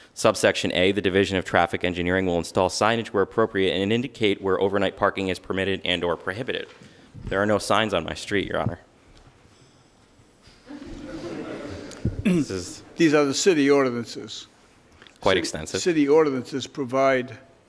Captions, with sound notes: Subsection A, "The Division of Traffic Engineering "will install signage where appropriate "and indicate where overnight parking "is permitted and/or prohibited." There are no signs on my street, Your Honor. (audience chuckles) These are the city ordinances. Quite extensive. City ordinances provide